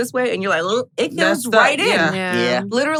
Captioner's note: gagging noise